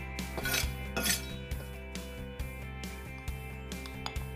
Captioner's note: knife scrapes